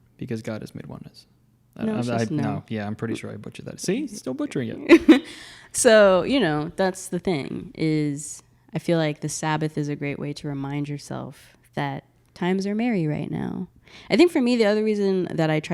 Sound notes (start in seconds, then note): 3.9 laughing